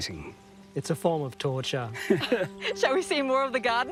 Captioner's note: all laugh